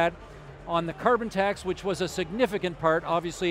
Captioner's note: none